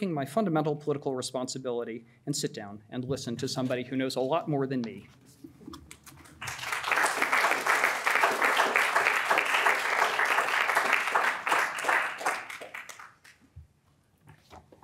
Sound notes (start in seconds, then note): 6.3 audience applauds